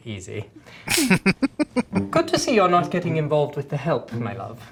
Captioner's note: laughing